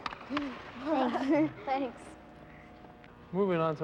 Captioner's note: laughter